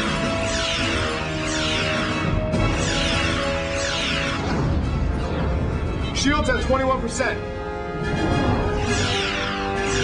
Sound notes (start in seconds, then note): 4.7 explosion